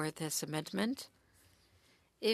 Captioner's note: speaking French